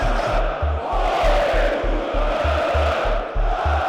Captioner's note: crowd chants